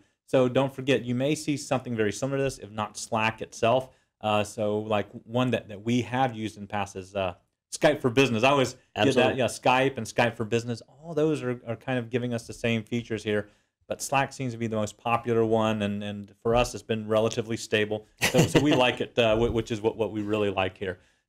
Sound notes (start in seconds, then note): 18.2 laugh